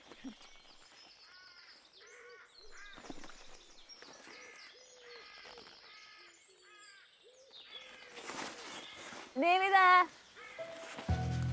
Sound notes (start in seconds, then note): 1.3 birds chirping; 10.5 gentle orchestral music